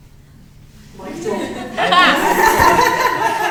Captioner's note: audience laughing